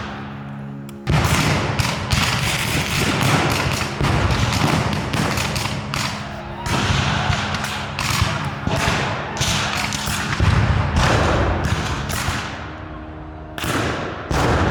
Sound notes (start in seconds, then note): 1.5 guns fire; 8.4 guns fire